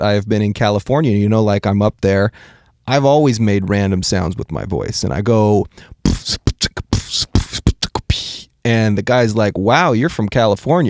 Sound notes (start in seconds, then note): 5.8 beatboxing